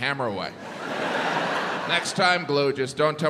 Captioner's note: crowd laughs